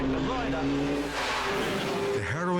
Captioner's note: engine roars